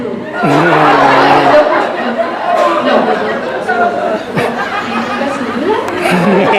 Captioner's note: laughter